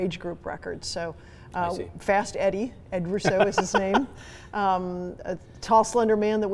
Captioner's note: laughing